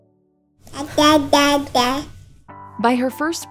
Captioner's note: babbling